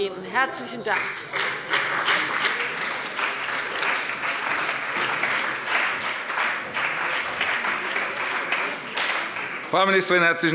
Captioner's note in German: Beifall bei der CDU und dem BÜNDNIS 90/DIE GRÜNEN